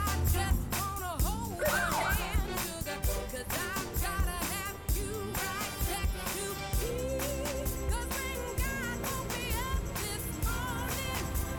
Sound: police siren blaring

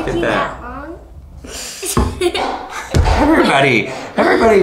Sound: laughter

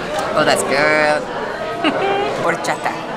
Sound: giggles

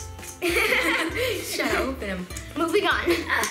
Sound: laughs

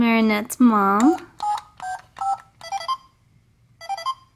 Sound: voiceover; beeping

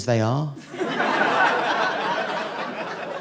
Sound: audience laughing

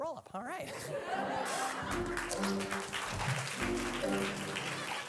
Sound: audience laughing; audience applauding; mischievous music; Grunch laughing

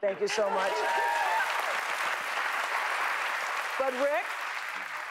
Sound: applause

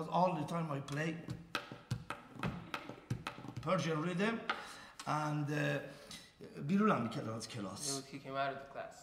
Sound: speaking in farsi

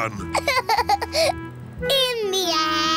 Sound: laughs

